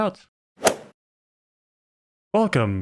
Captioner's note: golf ball hit sound